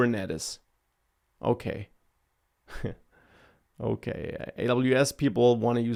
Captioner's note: laughs